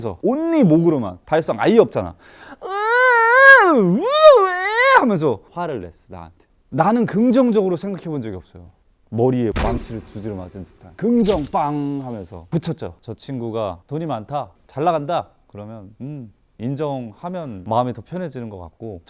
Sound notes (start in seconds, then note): 9.5 bang